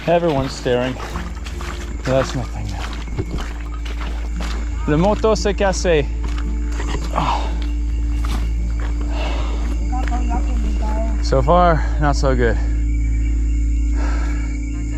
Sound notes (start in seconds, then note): 0.0 water sloshing; 5.0 speaking French